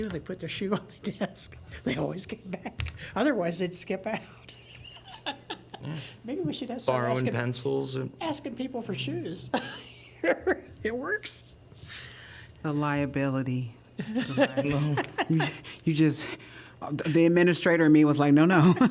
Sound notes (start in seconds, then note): 4.6 laughter; 9.5 laughter; 14.0 laughter